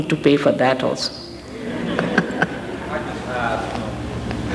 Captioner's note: laughing & laughter